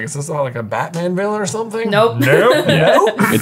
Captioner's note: laughing